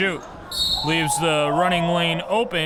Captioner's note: whistle blows